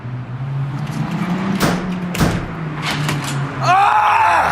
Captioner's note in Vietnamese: đùng đùng; hét lên